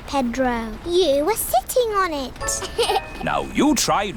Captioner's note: laughs